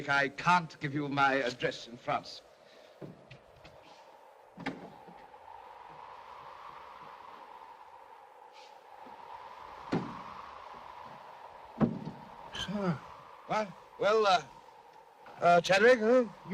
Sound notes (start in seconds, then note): 4.5 coach creaks; 5.6 wind blows; 11.8 door thumps shut